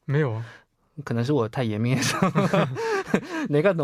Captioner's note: switches to Korean